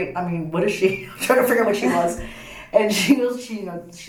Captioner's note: laughs